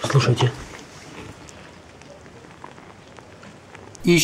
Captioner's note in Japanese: ミミズの泳ぐ音